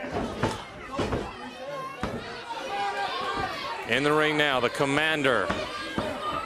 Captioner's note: crowd chatter